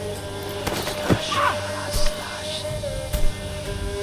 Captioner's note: ghostly whispering; cries out